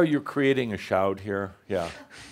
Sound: none

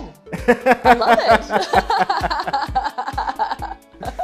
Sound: laughs

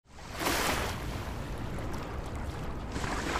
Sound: water splashing

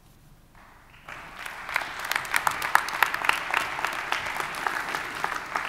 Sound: audience applauding

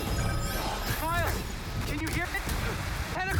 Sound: static

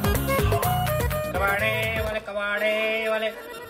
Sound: shouting

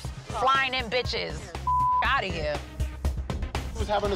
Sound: beep

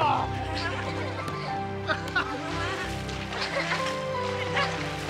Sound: water splashing

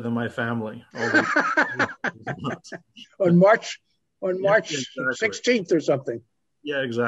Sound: laughs

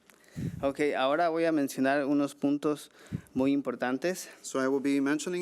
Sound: man speaking foreign language

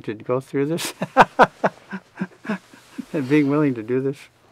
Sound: both laughing

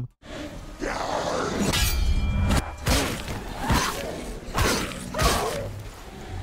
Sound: monsters roaring; swords swishing and clanking

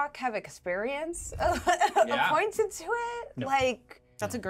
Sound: speaker chuckles

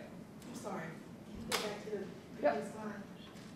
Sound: voiceover

